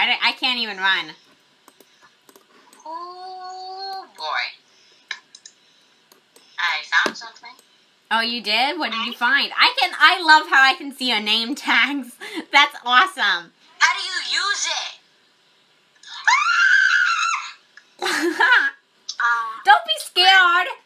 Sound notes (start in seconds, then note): 16.0 screams; 18.0 chuckles